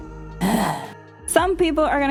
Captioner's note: sighs